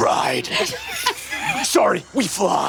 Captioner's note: laughs